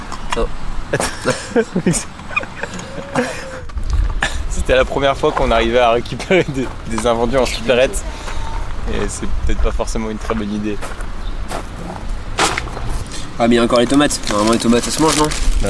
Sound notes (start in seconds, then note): 0.9 laughes